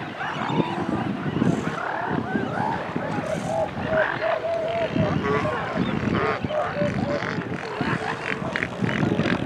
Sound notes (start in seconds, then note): 0.0 seagull calls continue; 2.6 wind continues; 5.5 seal vocalizations and calls